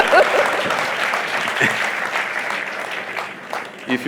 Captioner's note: laughter/Applause